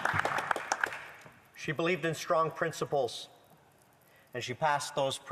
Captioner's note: applause